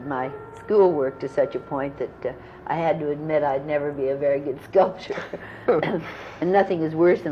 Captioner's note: laughter